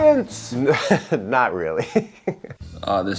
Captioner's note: laughs